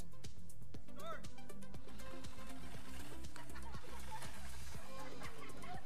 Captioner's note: audience laughing